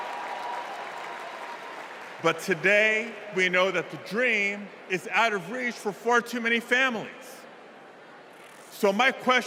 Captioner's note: cheers and applause